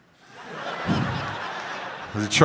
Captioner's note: crowd laughing